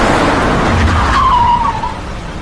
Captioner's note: brakes squeal